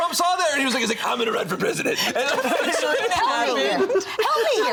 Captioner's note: all laughing